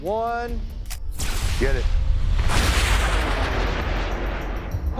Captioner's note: rockets hissing